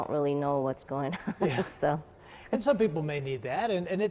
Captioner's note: laughs